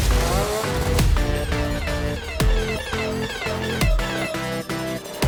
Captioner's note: alerts sound